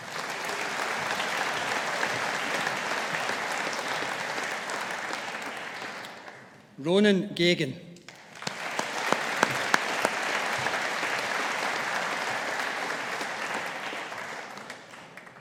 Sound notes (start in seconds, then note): 0.0 audience applauding; 8.1 audience applauding